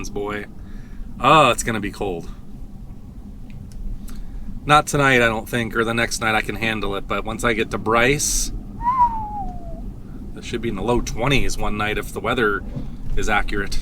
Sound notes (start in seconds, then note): 8.8 whistles